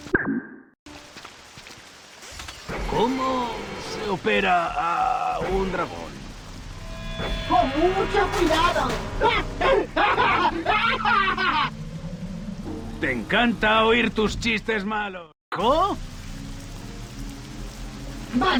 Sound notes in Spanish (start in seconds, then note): 10.0 risas